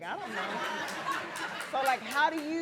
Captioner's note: audience laughing